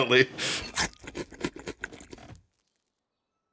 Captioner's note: munch, munch, munch